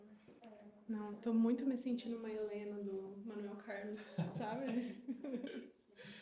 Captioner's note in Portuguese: risadas